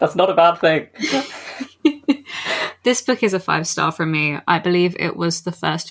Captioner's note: laughing; laughs